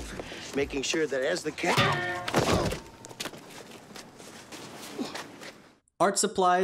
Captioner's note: smack